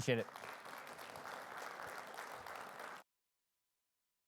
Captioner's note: crowd applauds